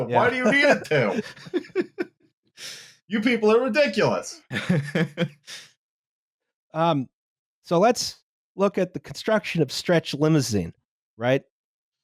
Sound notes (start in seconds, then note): 0.2 laughter; 4.5 laughs